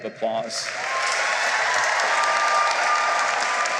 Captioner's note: cheering and applause